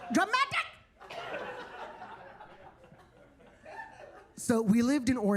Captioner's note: attendees laughing